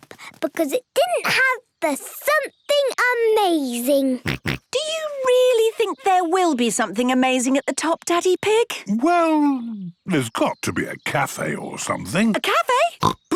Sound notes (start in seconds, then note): 4.2 snorts; 13.0 snorts